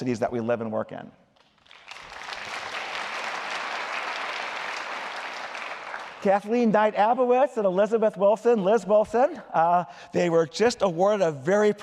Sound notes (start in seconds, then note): 1.4 applause